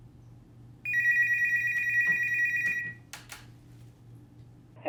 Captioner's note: phone ringing